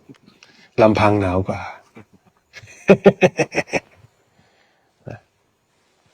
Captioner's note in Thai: เสียงหัวเราะ